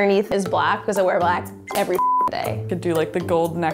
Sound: beep

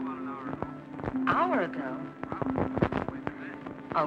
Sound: on phone; on phone

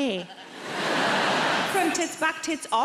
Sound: audience laughs

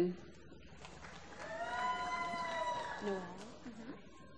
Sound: applause

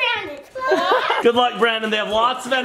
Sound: laughs

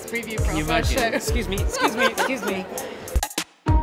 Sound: laughs

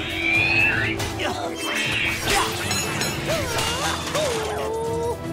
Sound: grunting

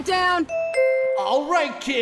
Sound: PA chime

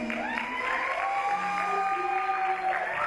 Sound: audience cheers

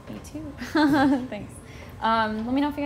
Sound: laughs

